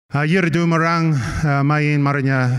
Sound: non-english speech

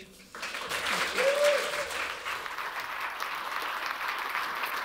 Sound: applause

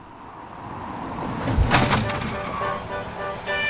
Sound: faint car speeding; car screeches to a stop

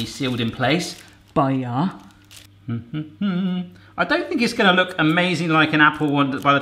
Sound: hums

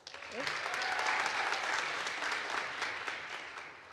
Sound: audience applauds

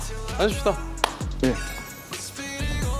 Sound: clap!

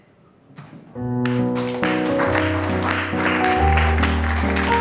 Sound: applause

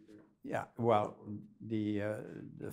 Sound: voiceover

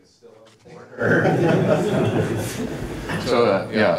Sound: laughter from audience

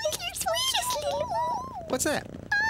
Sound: cat purring

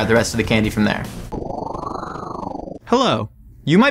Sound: whirring

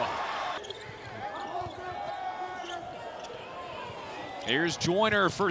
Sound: crowd

